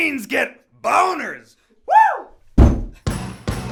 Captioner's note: screaming; loud stomp; upbeat music